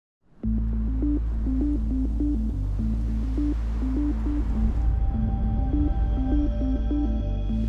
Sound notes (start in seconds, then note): 0.0 air whooshing; 0.3 gentle music; 2.3 waves crashing; 4.3 ethereal music; 7.4 air whooshes